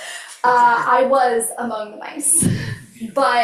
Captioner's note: laughs